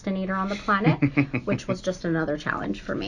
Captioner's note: laughing